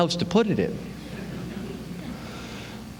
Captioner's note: laughter